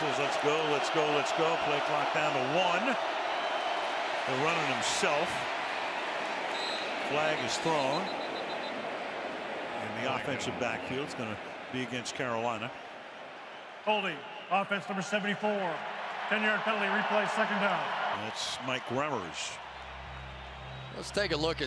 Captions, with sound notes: Newton says, let's go, let's go, let's go. Play clock down to 1. He'll run it himself. Flag is thrown-- [whistle blowing] --in the offensive backfield. It's going to be against Carolina. Holding, offense, number 74. [cheering] 10-yard penalty, replay second down. That's Mike Remmers.